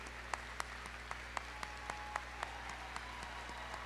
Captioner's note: applause